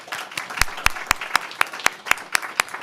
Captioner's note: applause